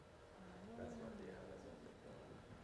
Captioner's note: audience talking softly to each other